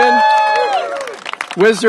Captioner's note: applause